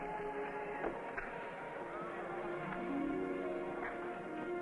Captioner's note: gentle music; people chattering